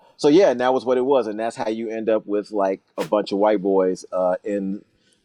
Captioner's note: whooshing sound